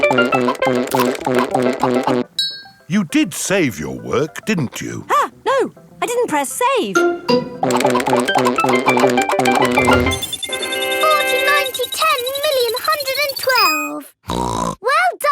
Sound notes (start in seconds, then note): 10.3 beeping; 14.2 snorts